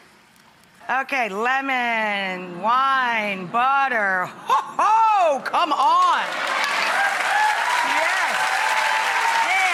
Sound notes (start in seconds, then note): 6.3 audience cheering